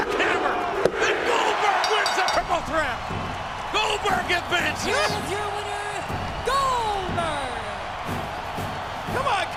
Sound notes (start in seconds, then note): 1.8 bell rings; 3.9 audience cheers; 7.8 audience cheers